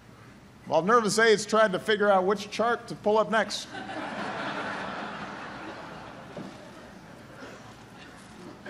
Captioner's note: laughter